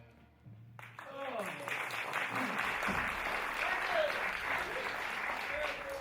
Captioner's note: applause